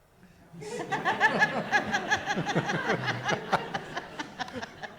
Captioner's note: audience laughs